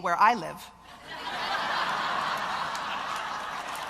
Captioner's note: loud laughter; wild applause